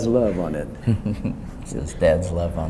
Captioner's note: chuckles